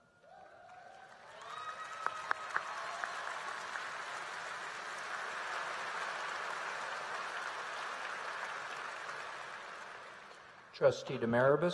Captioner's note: applause